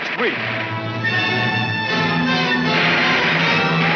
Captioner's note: gunshots banging; siren blaring